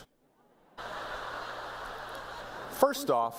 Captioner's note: laughter